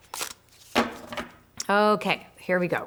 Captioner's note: cards banging